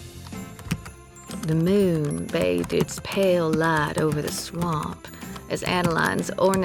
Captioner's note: typing resumes